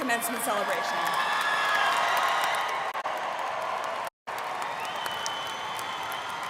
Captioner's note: students cheering and applauding